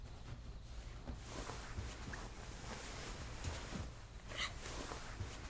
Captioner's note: bedding rustles